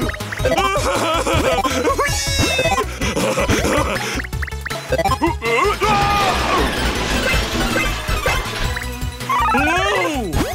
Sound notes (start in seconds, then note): 0.5 laughing; 5.8 screaming